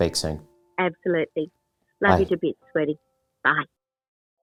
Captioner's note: phone voice